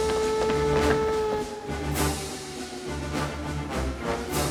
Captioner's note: alarm Continues